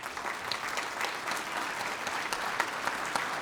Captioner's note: applause